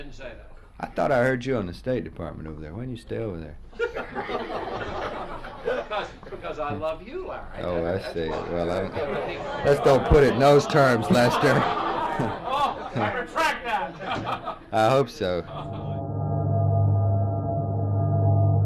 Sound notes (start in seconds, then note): 3.8 press pool laughs; 11.5 press pool laughs